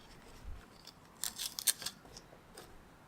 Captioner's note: scratching